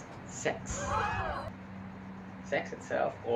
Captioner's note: audience gasps